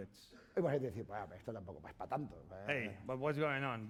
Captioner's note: speaking spanish